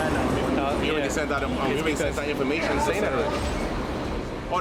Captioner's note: people chattering